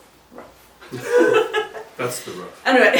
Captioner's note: laughs